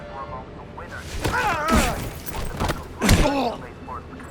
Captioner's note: groaning and screaming